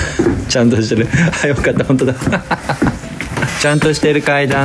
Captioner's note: laugh